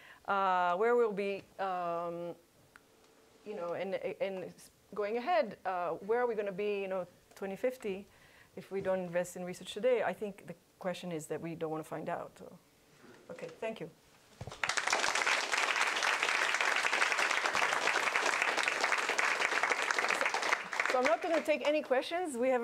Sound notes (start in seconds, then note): 14.4 applause